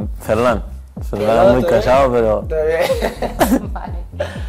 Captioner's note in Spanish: risas